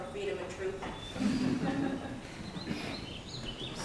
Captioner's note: laughter